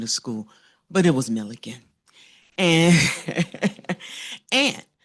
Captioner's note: laughs